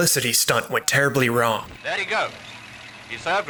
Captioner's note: voice of newsreel